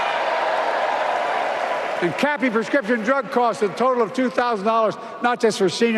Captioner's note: applause